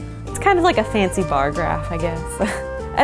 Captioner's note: laughs